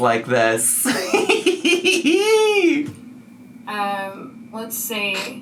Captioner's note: laughs